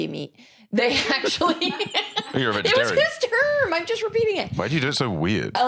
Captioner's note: laughs